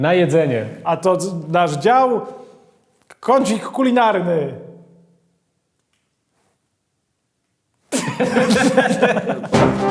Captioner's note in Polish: śmiech